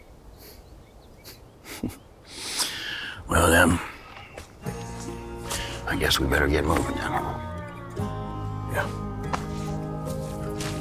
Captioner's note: snorts